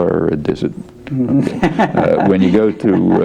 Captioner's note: laughs